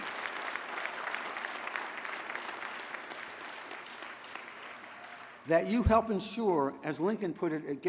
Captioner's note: applause